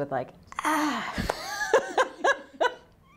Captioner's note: laughter